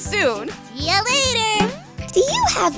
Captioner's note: boing